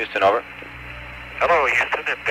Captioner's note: radio transmission